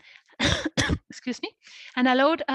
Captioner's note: coughs